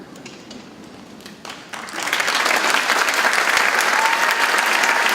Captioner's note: audience clapping and cheering